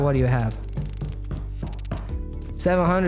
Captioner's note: tapping